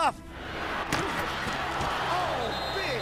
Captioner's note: thud